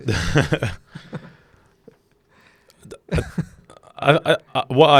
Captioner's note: laughing together